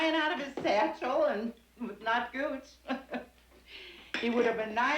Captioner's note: chuckling